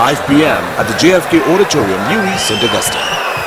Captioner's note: wild applause and cheering for 22 seconds